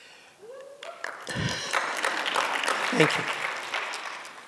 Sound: applause

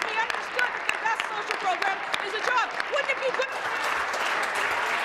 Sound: applause

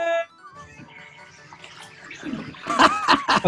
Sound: sniggering; laughing

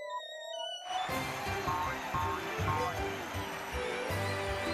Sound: audience cheering

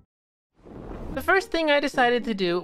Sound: fire whirrs

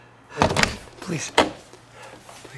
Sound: door clicking open

